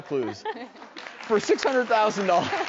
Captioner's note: audience applause